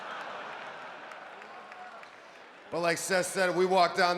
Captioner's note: applause